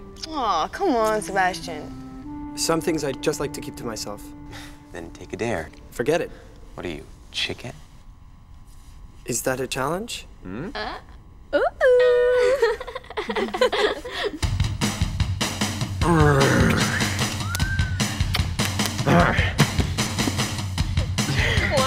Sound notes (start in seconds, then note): 11.8 girls giggle; 16.0 Squib growls; 17.3 wolf whistle; 19.0 Squib grunts